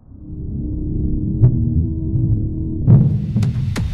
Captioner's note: low rumble and deep impacts